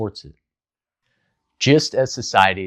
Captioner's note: beat